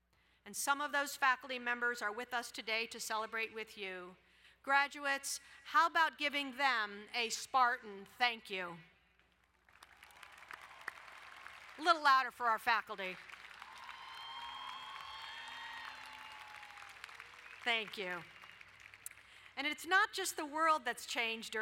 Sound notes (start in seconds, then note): 9.3 applauding; 13.1 crowd cheering and applauding